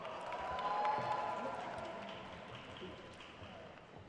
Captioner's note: crowd cheers